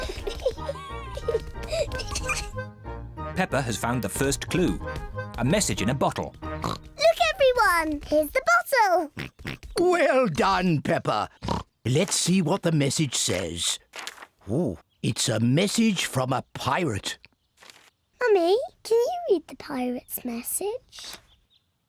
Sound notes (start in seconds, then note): 6.6 oinks; 9.1 oinks; 11.4 oinks